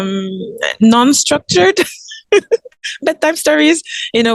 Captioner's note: giggles